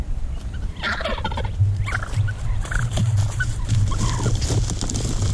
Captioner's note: turkeys calling